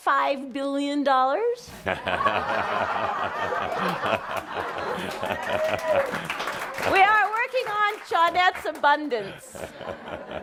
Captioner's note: laughter